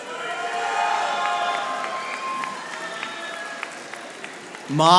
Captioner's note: audience applauding